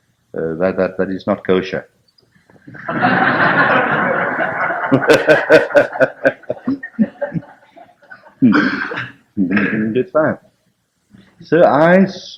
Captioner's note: laughter